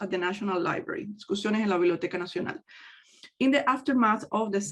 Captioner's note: speaks in foreign language